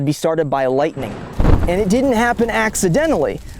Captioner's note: thunder crashing